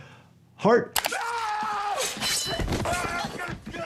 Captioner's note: screaming